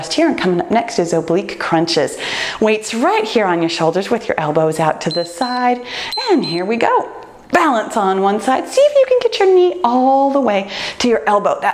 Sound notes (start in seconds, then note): 5.0 timer beeps